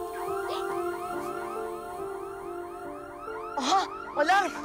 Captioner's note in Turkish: Alarm Çalıyor